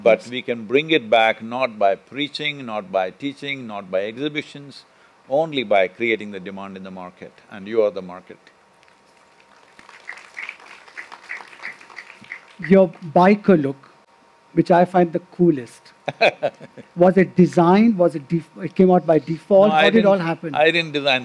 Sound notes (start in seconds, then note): 9.2 applause; 16.0 Sadhguru laughs